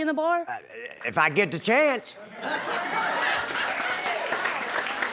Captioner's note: audience laughs